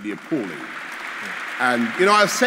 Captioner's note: applause